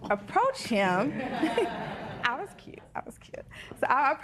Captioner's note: laughter